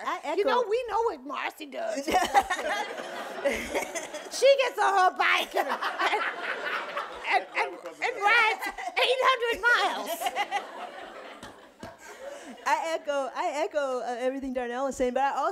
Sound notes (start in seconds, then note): 7.0 laughing; 10.1 audience laughing